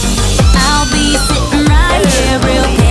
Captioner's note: Sweet Polly Screams